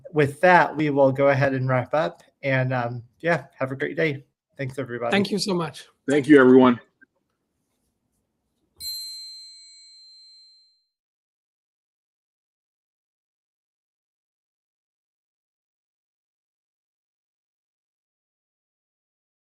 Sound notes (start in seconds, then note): 8.8 bell chimes